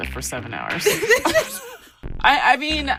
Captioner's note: both laughing